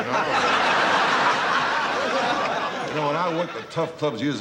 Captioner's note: laughing